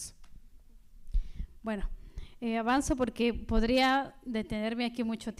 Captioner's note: speaking spanish